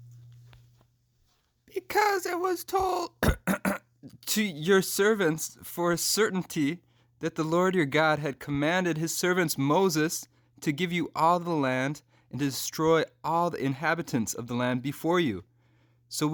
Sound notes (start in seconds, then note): 2.8 cough cough